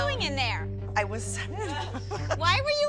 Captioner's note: giggling